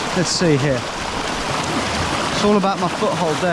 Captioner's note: river rushing